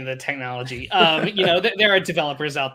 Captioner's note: laughs